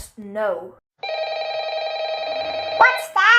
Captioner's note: phone rings